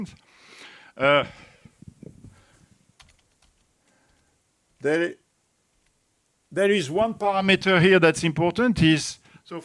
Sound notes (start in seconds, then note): 2.9 keyboard buttons clicking